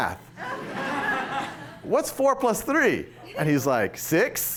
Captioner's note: laughter